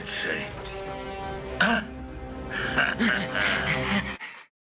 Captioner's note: laughs evilly